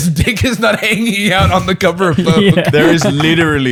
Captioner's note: laughs